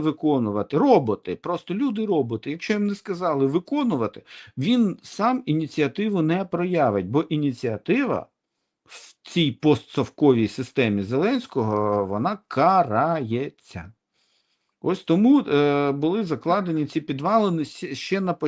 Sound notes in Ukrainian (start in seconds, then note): 8.8 сопіння